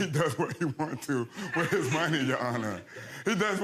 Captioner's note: chuckles